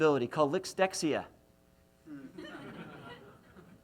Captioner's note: laughs